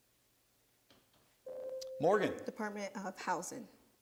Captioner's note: buzzer sounds